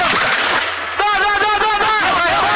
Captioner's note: shooting